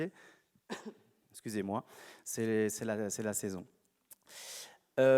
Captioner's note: coughs